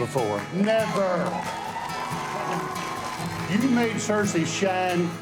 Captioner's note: clapping and cheering